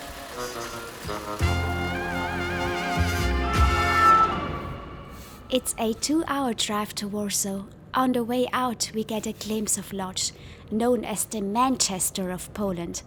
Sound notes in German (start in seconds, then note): 1.8 Feuerwehrauto-Sirene